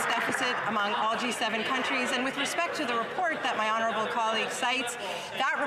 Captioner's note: some Applause